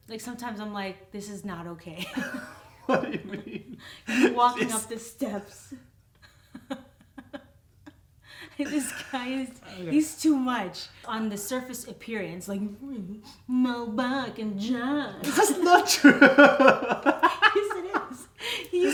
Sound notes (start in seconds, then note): 6.3 laughing; 15.1 laughs